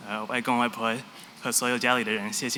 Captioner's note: non-english